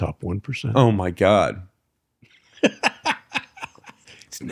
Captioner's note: laughter